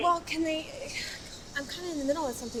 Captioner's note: Cassidy stammering